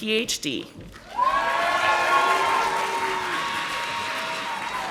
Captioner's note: audience applauding